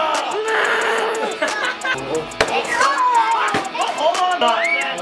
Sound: growls; dad laughs

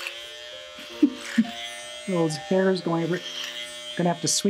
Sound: laughs

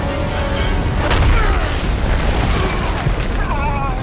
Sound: grunts

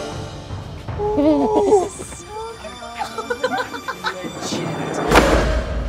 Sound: laughter

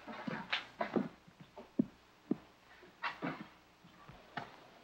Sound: footsteps leaving

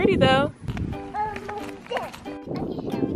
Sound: child talking; upbeat music

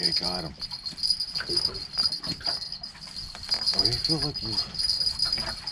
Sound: jangling

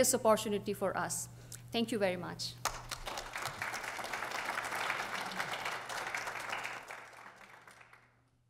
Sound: applause

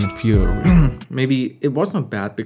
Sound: cough

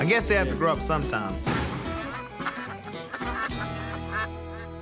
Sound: ducks quacking

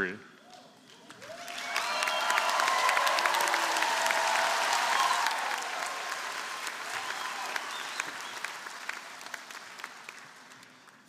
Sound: applause

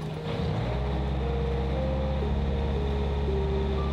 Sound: engine running

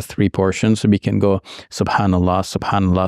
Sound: speaks in Arabic

